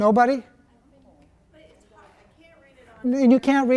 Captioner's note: voiceover